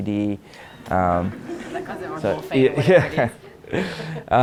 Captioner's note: audience laughs